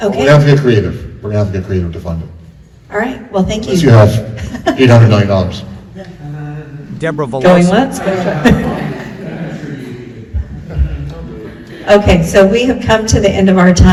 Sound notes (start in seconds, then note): 6.2 soft laughter; 7.9 murmuring and soft laughter